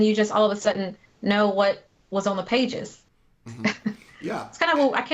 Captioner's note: chuckles